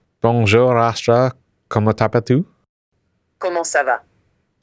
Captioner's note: speaking in french